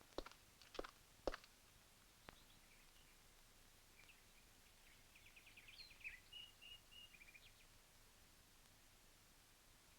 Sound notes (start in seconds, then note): 2.0 birds chirping